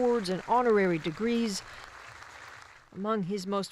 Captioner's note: applause